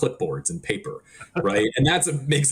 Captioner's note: laughing